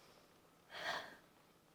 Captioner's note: sigh